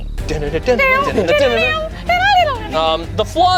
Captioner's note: vocalize